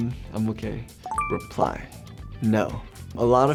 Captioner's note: beeps